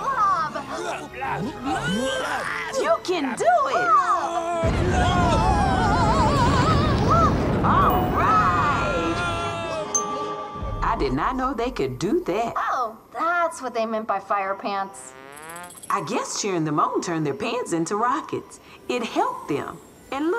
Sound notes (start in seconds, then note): 0.0 all grunting and straining; 3.5 exclaims